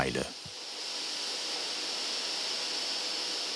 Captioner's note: hiss